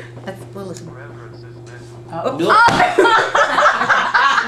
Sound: calculator Sounds; laughter

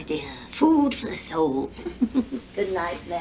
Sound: laughs

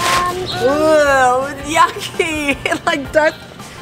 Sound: groans in disgust

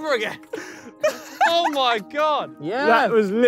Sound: Tobi laughing

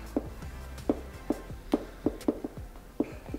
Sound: laughing

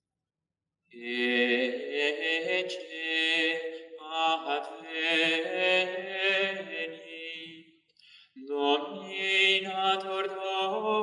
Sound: chant

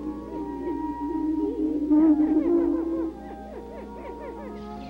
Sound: prairie chicken sounds

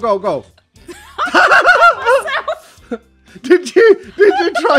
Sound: both laugh

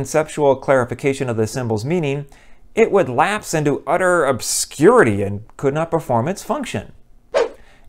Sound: swoosh

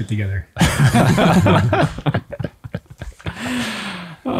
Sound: all laughing

